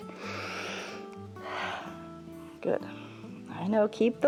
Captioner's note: inhales and exhales